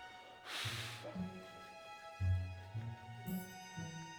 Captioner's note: dramatic music; Tucker blows